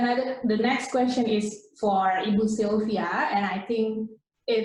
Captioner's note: in foreign language